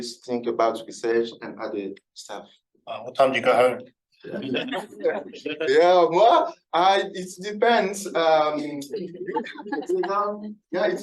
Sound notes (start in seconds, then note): 4.3 everybody laughing; 8.6 everybody laughing